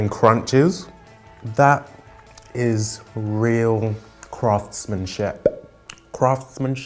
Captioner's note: bubble popping